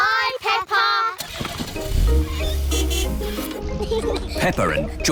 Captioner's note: car starts; toots horn